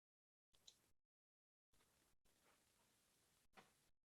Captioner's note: mouse clicks